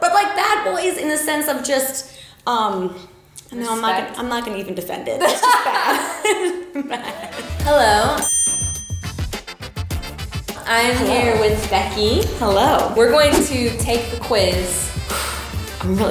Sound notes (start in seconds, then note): 5.4 laughs; 8.2 bell dings